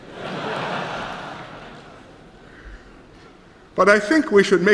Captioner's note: laughter